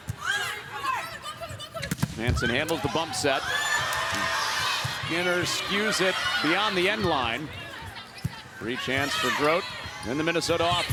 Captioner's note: audience reacts